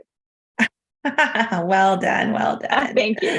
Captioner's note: laughing